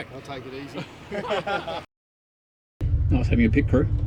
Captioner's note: chuckles